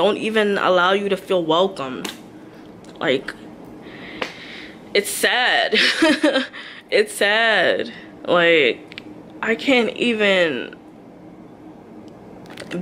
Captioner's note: laughs